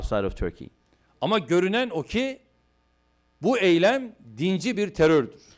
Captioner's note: non-english speech